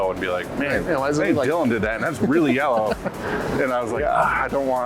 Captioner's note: giggles